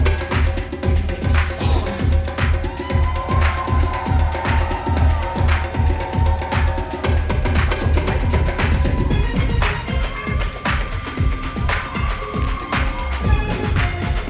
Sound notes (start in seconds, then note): 3.0 audience cheering; 10.0 upbeat rhythmic music continues